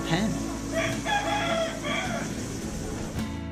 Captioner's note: rooster crows